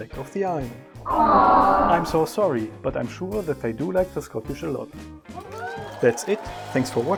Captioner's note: audience cheers